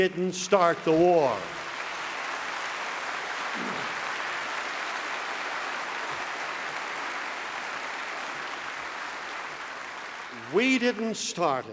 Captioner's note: applause